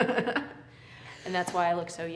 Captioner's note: both laugh